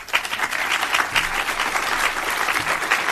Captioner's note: applause